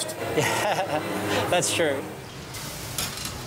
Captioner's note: laughter